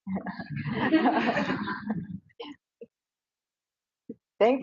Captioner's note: audience laughs